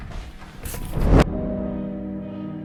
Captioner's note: distant boom